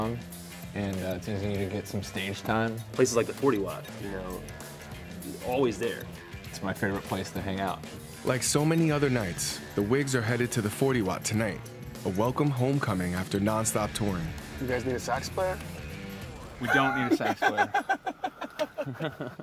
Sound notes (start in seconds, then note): 16.6 laughs